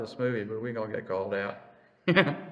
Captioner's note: laughs